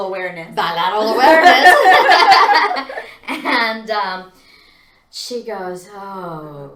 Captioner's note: laughs